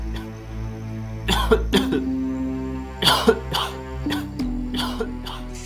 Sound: cough

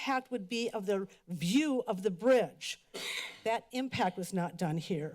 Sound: coughs

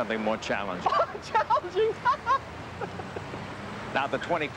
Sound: laughing

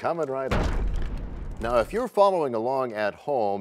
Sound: crashing sound

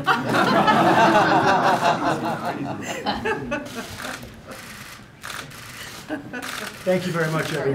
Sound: laughter

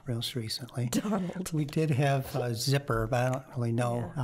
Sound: chuckling

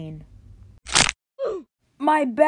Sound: back breaks

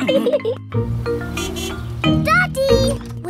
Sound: horn honks

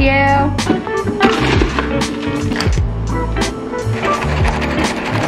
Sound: sound of ice scooping

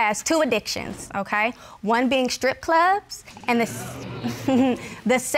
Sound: scoffs

